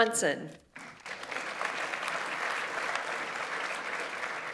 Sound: audience applauds

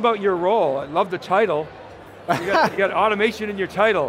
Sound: laughs

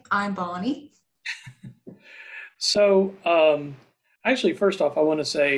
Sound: laughter

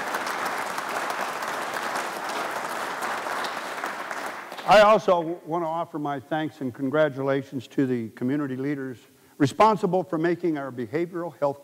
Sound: applause

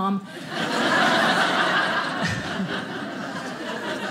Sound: audience laughing

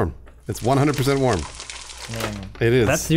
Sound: sound of skin sizzling

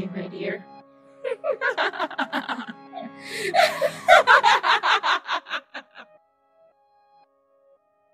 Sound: sinister laughter

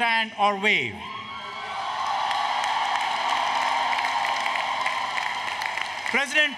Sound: applause, Cheering

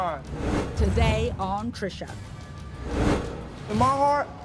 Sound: voiceover

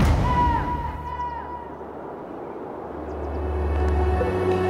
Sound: sound echos; wind blows; soft music

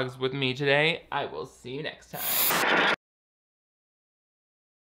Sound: static crackles

